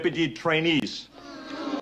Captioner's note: whining sounds